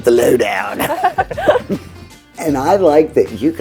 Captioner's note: everyone chuckles